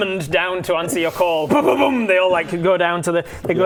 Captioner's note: boom boom boom